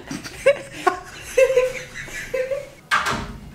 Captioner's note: laughter